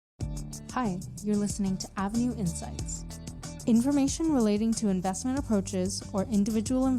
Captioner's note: voiceover